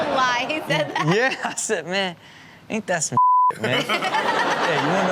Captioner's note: beep